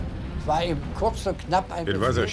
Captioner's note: speaking in foreign language